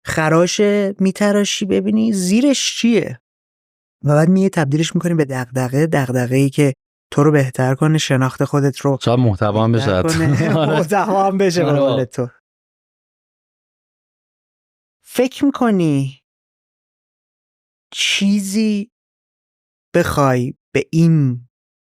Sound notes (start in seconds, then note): 9.8 laughs